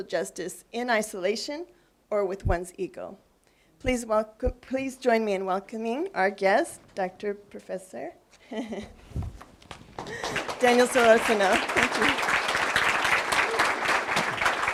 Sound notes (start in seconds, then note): 9.9 applause; 10.0 laugh